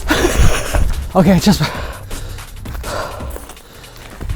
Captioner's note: panting